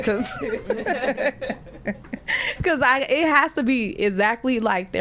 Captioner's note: laughter